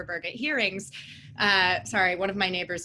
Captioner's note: distant motorcycle engine